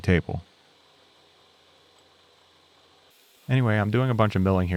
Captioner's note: machine whirring